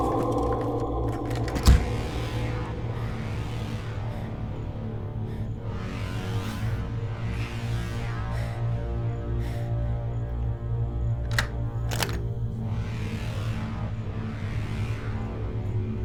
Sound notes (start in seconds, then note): 0.0 door clatters; 2.9 dramatic, ominous music; 2.9 labored breathing